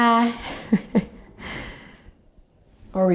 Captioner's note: chuckles